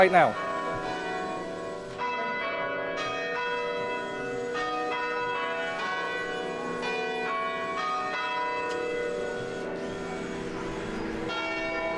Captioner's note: bells ringing